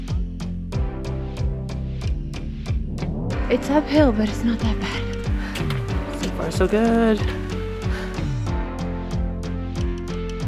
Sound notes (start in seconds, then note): 5.3 out of breath